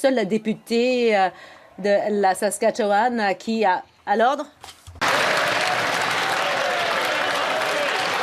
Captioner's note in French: voix de l'interprète